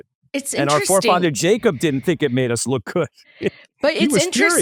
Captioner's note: laughs